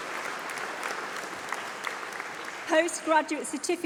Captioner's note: applause